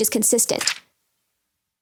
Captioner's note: notebook page flips